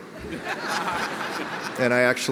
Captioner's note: audience laughs